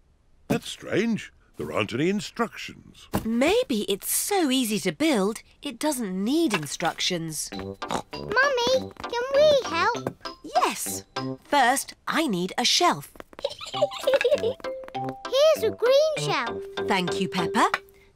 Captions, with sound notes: That's strange. There aren't any instructions. Maybe it's so easy to build, it doesn't need instructions. (SNORTS) Mummy, can we help? Yes. First I need a shelf. (GIGGLES) -Here's a green shelf. -Thank you, Peppa.